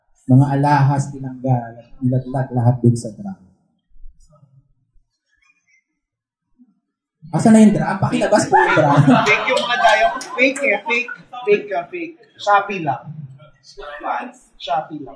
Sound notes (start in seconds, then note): 11.8 laughter